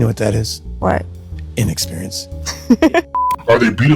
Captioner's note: laugh default v001